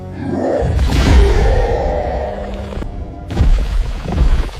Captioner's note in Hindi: चीखने की आवाज़